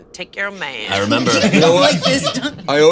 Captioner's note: all laughing